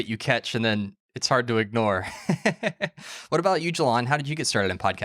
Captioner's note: laughs